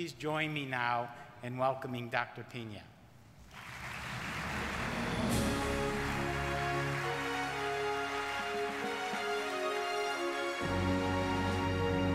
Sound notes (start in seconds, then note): 3.4 audience applauding